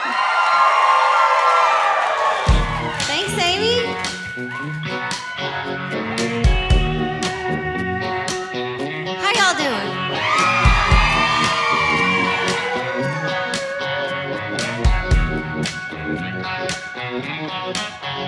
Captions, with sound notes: (audience cheering) - Thanks Amy. (bouncy guitar music) - How y'all doin'? (audience cheering)